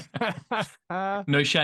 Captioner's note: laughter